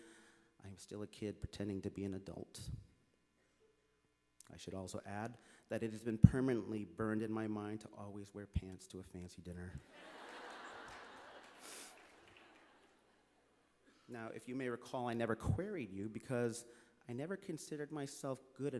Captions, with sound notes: I am still a kid pretending to be an adult. I should also add that it has been permanently burned in my mind to always wear pants to a fancy dinner. (Laughter). Now, if you may recall, I never queried you, because I never considered myself good enough